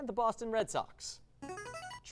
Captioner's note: device sound